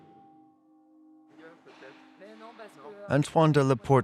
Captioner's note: people talking in background